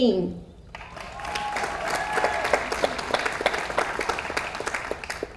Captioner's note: audience applauds